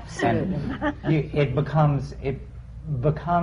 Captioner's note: laughter